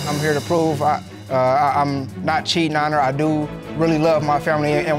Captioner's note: stammers